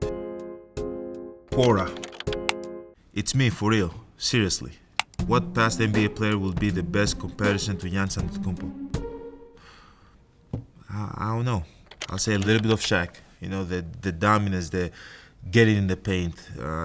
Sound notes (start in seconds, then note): 1.6 typing; 12.4 keyboard clicking